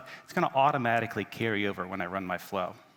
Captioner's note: none